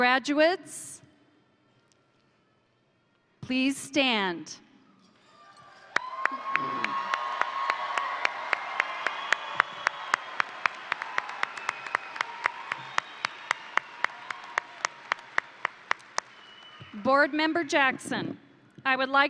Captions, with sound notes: Graduates, please stand. (crowd cheering) (crowd applauding) Board Member Jackson,